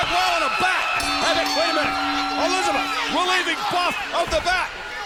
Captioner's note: bell ringing